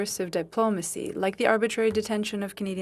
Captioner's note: speaking French